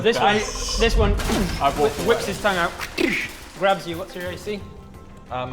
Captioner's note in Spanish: boom